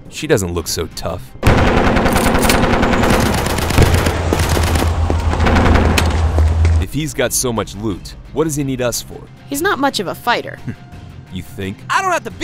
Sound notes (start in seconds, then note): 1.4 gunshots; 4.4 screaming